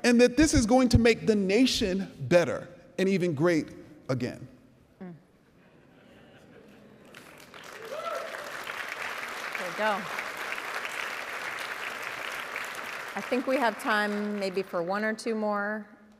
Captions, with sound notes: And that this is going to make the nation better and even great again. (audience murmurs) (audience cheering and applauding) - There we go. I think we have time maybe for one or two more.